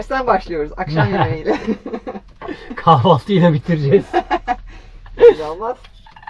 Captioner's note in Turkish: kahkaha